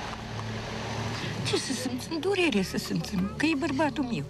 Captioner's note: woman speaking Romanian